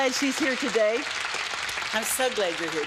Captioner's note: audience applauds